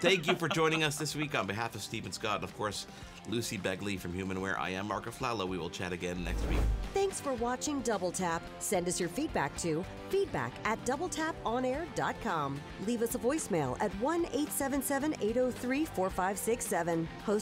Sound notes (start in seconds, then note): 6.2 air whooshing